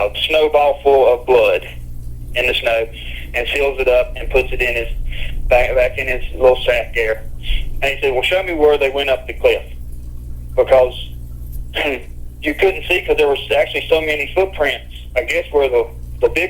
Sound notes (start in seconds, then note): 11.0 chuckles